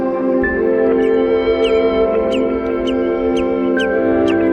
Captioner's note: seabird chirping